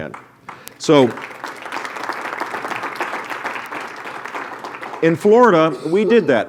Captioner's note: applause